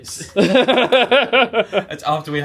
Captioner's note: laughs